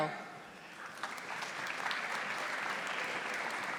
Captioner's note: audience applauding